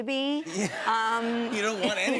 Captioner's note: laughter